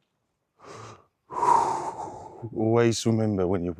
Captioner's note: breathing